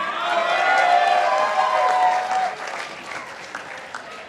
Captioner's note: participants applauding